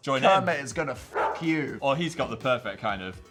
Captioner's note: dog barks